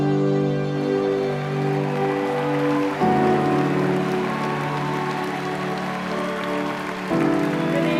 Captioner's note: applause